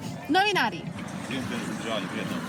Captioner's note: speaking Serbian